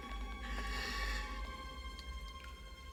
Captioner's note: inhales